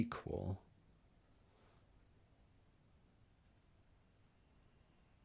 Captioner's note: silence